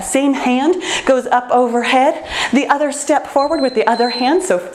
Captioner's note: timer beeps